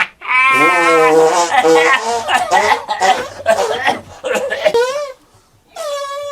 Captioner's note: monster farting; monster coughing